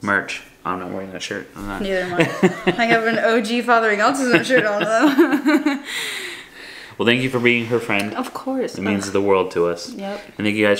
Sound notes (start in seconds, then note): 1.8 laughs